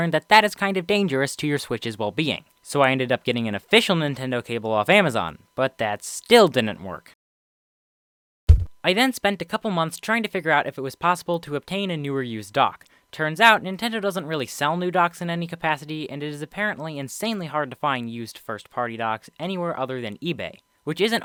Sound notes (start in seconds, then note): 8.5 thud